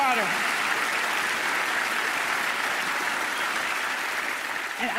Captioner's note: audience applauding